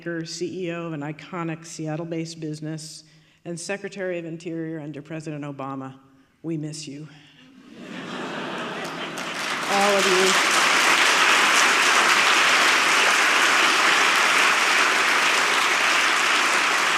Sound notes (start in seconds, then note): 7.8 audience laughing; 12.0 audience clapping